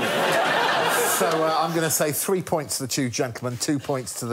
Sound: laughter

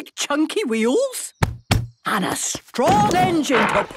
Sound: thumping

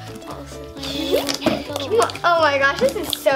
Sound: giggles

